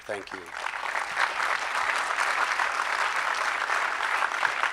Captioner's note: crowd applause